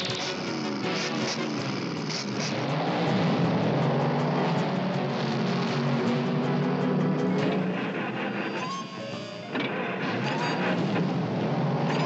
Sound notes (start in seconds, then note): 7.2 engine sputtering